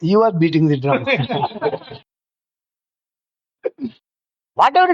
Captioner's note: laughs